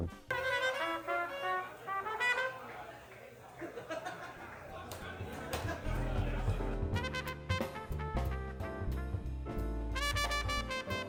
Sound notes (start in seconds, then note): 0.0 upbeat jazz music; 2.6 audience laughing; 7.1 calm jazz music